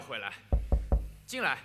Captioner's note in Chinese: 敲门声